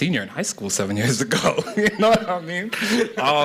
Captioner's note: laughter